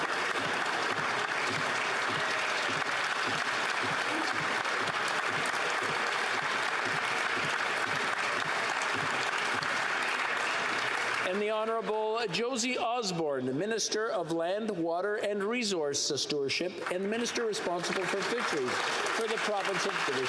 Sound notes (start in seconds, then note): 4.1 applause